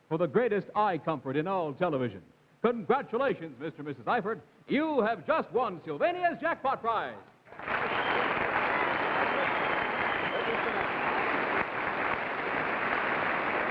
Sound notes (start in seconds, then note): 7.5 crowd applauding